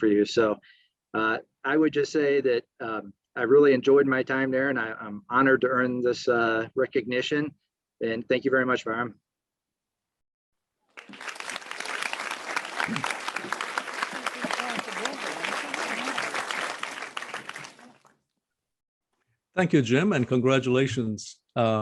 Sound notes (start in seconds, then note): 10.9 crowd applauds